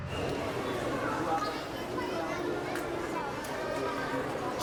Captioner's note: people chattering